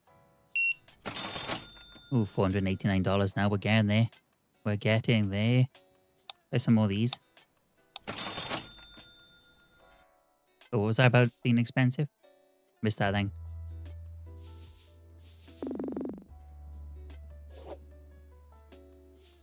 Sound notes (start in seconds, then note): 0.0 beeping; 8.3 clicking; 16.2 soft music